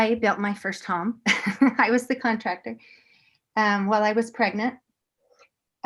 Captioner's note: laughter